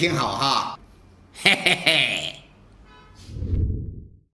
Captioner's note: laugh